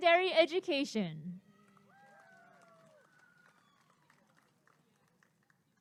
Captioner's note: applause and cheering